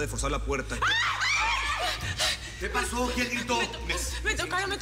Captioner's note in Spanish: Gritos